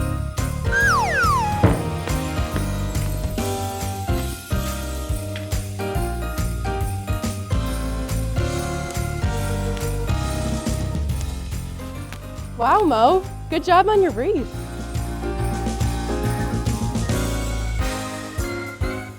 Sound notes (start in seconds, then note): 0.6 whistle blowing; 4.8 festive music continues